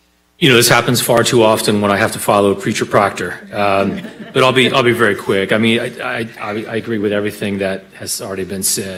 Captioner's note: laughter